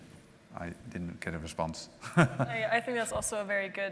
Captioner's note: chuckles